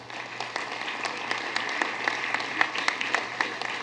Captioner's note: applause